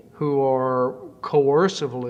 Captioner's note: none